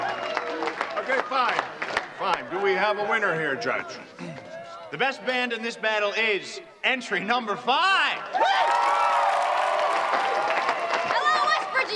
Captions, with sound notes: OKAY, FINE... FINE. DO WE HAVE A WINNER HERE, JUDGE? THE BEST BAND IN THIS BATTLE IS... ENTRY NUMBER FIVE! (cheering and applause) HELLO, WESTBRIDGE!